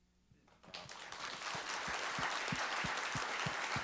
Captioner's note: applauding